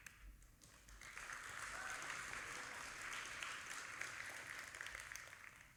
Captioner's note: audience applauding